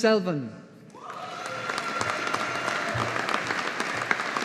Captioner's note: audience applauding